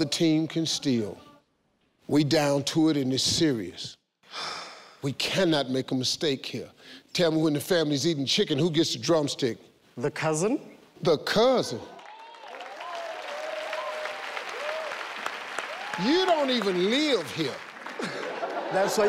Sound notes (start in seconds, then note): 11.9 audience cheering; 17.8 laughing